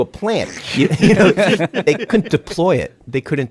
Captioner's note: laughs